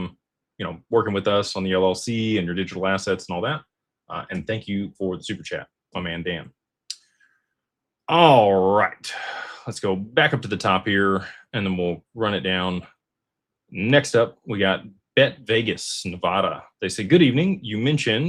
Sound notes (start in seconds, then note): 9.1 sighs